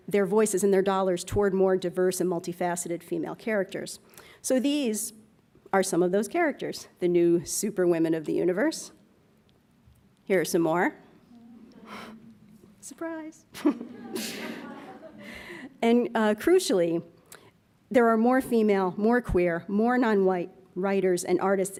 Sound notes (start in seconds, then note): 11.4 laughs